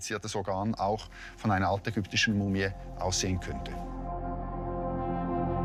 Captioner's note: speaks German; mysterious tones